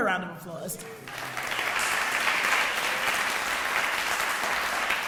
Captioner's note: audience applauding